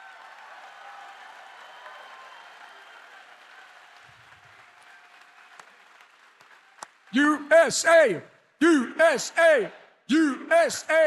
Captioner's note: audience chants "USA"